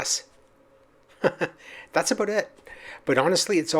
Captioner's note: chuckles